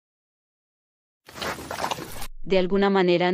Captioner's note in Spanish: FX - Pig Eat